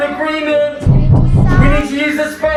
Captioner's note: loud banging on the door